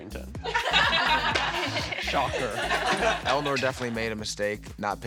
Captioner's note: laughter